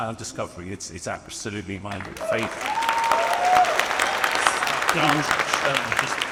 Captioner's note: audience applauds and cheers